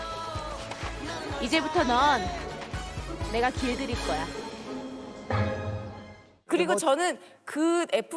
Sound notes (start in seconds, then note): 4.5 bang